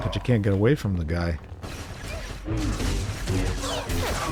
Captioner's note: gunfire